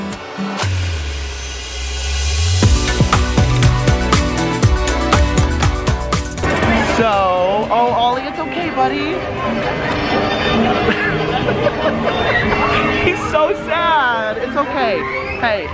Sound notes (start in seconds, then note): 0.7 enchanted music; 10.7 laughs